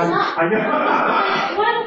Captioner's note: laughs